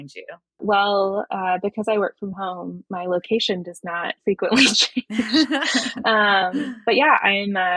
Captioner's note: <laugh>